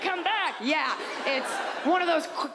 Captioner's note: audience laughs